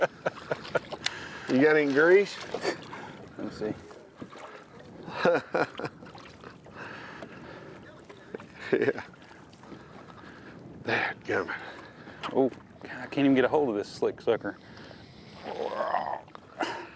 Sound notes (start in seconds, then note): 5.0 laughing